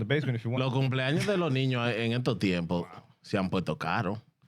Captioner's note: speaking In Foreign Language